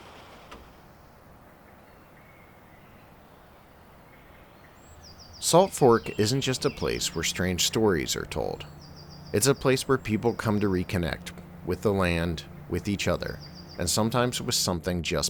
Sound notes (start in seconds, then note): 2.1 birds chirping